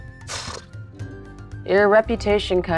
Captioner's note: puffing